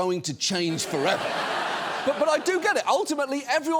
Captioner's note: studio audience laughs